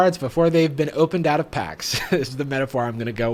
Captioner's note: laughs